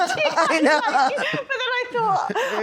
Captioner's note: laughter